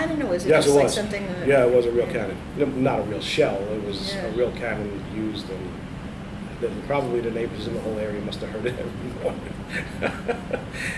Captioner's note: laughs